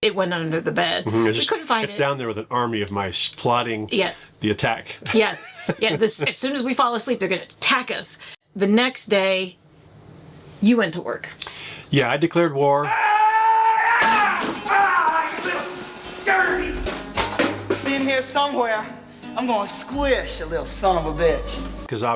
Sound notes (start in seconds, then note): 13.5 yelling